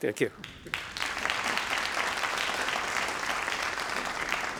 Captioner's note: crowd applauding